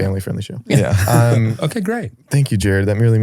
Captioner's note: chuckles